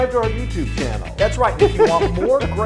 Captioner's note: laugh